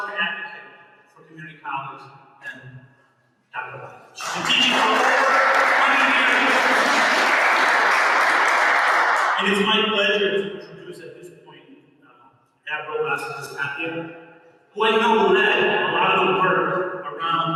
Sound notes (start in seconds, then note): 4.2 applause. Inaudible word